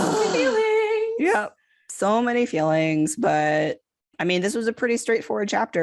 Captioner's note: moans